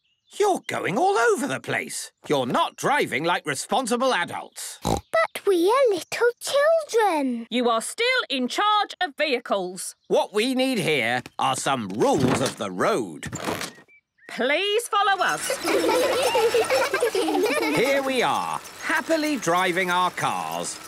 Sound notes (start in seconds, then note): 4.8 snorting; 15.1 laughter